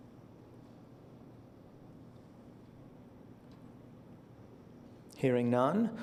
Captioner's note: silence